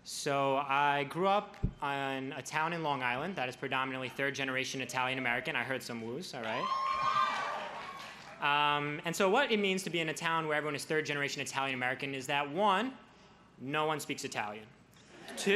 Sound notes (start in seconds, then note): 6.4 crowd cheers